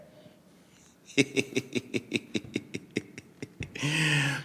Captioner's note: laughing